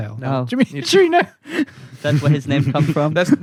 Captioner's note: laughter